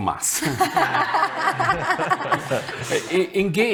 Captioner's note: people laughing